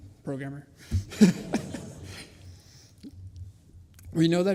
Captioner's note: laughter